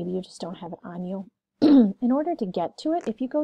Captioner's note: clears throat